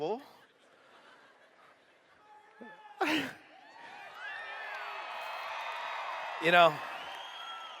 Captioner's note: cheers